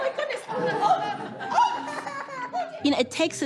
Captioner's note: laughter